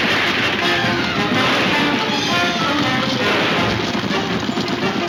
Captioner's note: gunshots banging